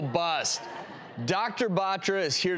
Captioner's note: crowd laughs